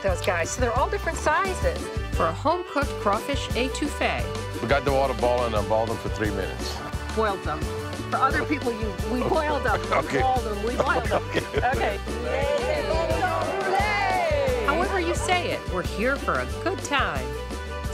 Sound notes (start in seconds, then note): 10.8 laughing; 12.2 cheering